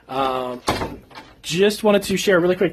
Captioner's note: door slams